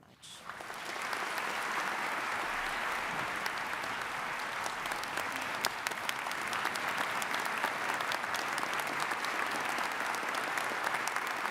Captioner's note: applause